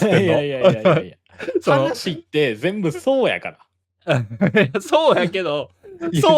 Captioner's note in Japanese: 笑い